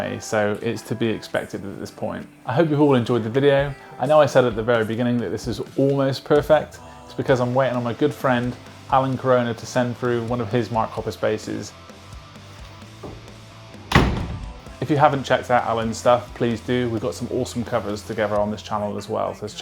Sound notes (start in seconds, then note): 13.8 door slams